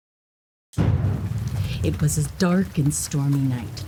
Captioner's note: thunder rumbles